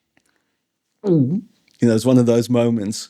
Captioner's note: gulp